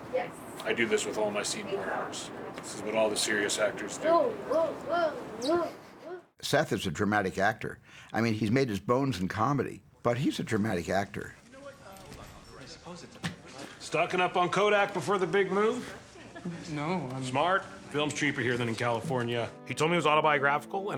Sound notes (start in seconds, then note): 5.6 Rogen chuckles; 11.6 chattering